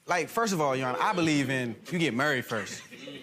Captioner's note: gallery oohs